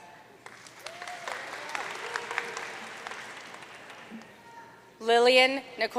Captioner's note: audience cheering and applauding